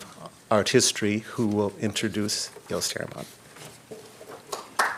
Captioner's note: applause